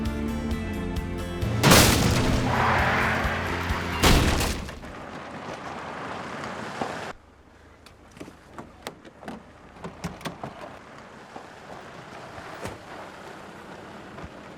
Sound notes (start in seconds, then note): 1.5 gate crashing; 1.7 tires squealing; 4.4 car crashes; 5.6 engine rumbling